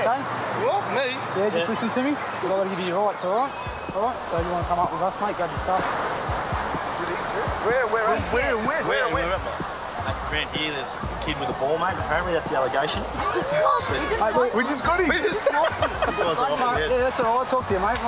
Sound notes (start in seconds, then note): 7.2 men in unison; 13.0 men laughing